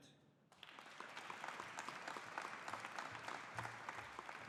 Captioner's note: audience applauding